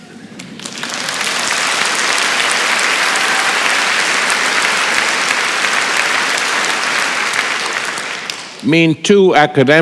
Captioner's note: applause